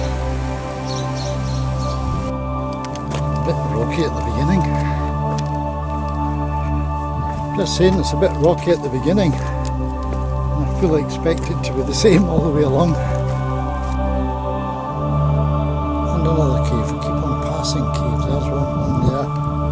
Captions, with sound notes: It's a bit rocky at the beginning... I'm just saying it's a bit rocky at the beginning. And I fully expect it to be the same all the way along! [laughs] And another cave!